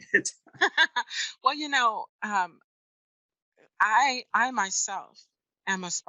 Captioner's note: laughs